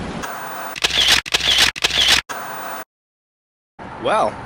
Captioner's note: camera shuttering